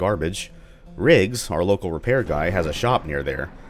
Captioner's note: thunder